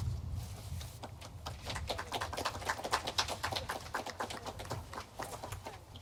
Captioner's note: aplodeja